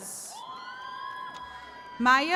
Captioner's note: attendees cheering